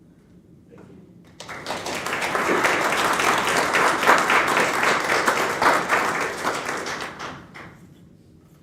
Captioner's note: applause